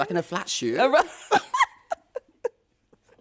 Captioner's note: laughter